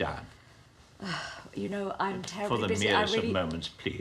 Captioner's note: sighs